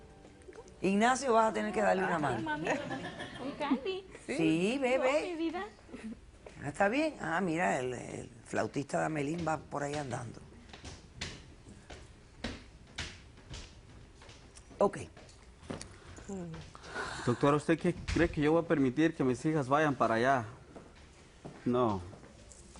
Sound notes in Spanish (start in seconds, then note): 2.5 Risas